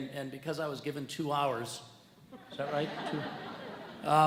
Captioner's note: audience laughs